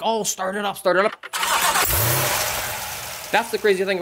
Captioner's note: revving